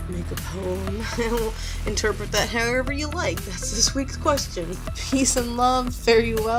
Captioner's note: laughs